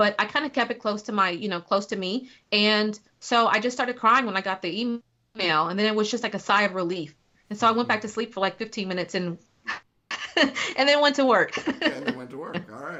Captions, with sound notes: But I kind of kept it close to me. And so I just started crying when I got the email. And then it was like a sigh of relief. And so I went back to sleep for, like, 15 minutes (laughing) and then went to work. - And then went to work.